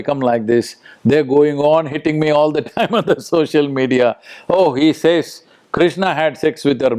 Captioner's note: laughs